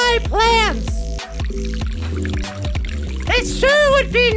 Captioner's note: water pouring noise